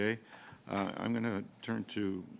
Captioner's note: speaking French